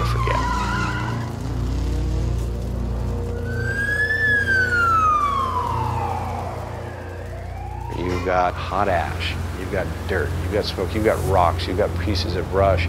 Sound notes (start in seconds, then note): 7.8 sirens